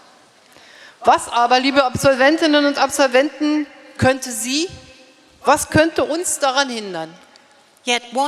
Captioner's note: speaking in German